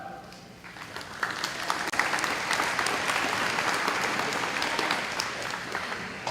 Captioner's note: applause